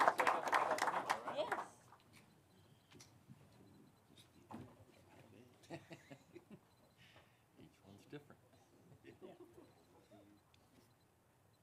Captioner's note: applause